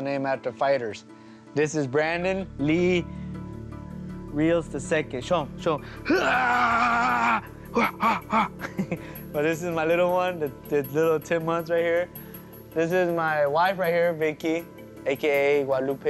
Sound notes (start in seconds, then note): 7.7 laughs